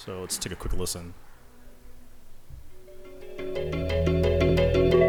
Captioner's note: pause sound effect playing